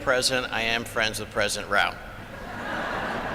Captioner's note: laughter